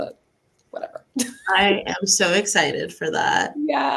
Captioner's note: laughs